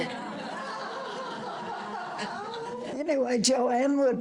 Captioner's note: audience laughter